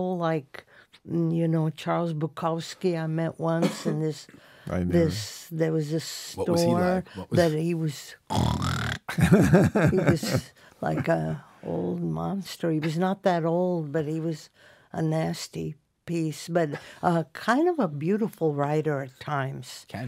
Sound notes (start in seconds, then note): 8.4 snores